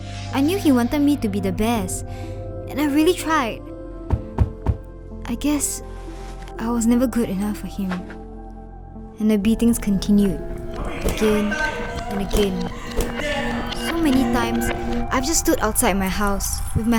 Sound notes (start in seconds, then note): 13.3 girl sobbing